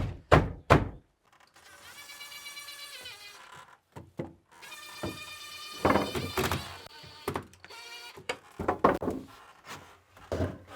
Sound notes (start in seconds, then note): 2.2 drill buzzing